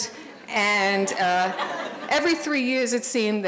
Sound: audience laughing

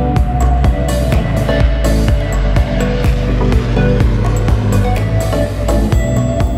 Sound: sound of Pilatus PC-12 low pass; for sale music

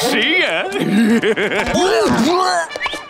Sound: groaning

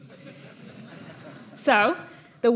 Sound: audience laughing

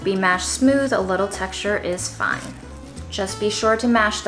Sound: beans squishing

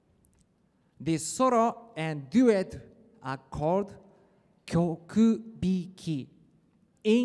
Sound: speaking Japanese

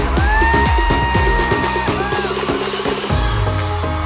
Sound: crowd cheering

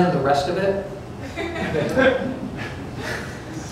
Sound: laughter

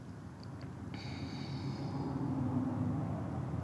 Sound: sighs

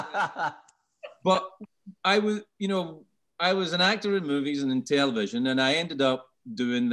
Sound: laughing

